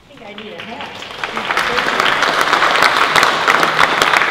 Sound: applause

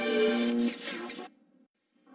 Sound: mechanical sounds

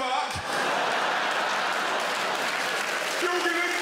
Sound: crowd laughter

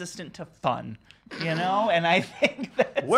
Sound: laughs

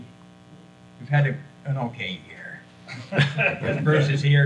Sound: chuckles

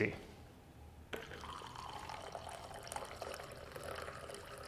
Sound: liquid glugging

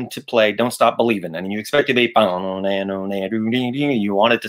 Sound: mimics guitar

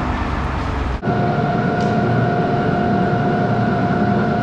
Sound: machine whirring

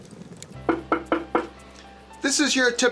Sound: taps wood

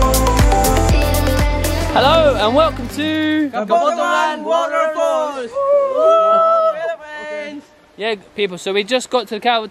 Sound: whooping

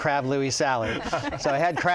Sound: laughing

